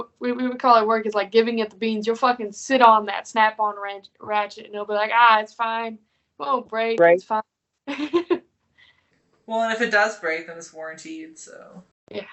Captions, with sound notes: What we would call at work, it's like giving it the beans. You'll fuckin' sit on that Snap-on ratchet, and they'll be like, "Ah, it's fine. "Won't break, it's fine." (laughing) - Well, and if it does break then it's warranted so.